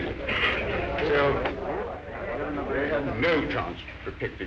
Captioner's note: men talking